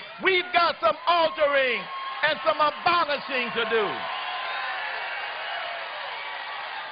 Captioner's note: applause